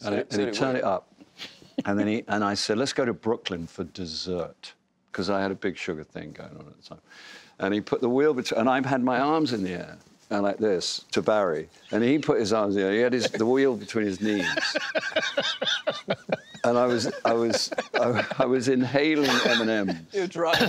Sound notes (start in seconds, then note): 14.2 laughing